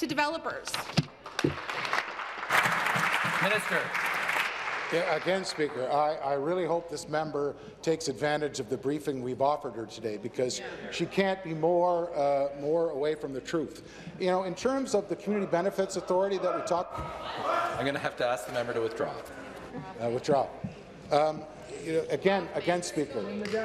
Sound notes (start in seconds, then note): 4.6 applause